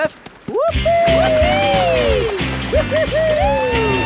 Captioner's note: both whooping